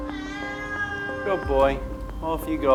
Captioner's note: Siam meows